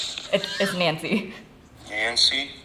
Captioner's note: laughs